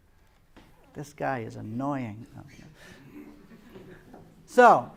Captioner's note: laughter